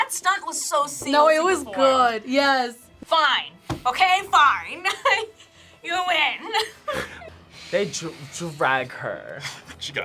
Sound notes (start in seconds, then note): 5.2 laughs